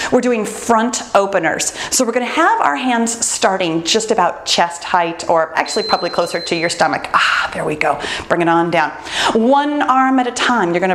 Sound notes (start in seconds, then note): 5.6 bell dinging